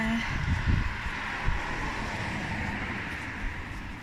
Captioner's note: traffic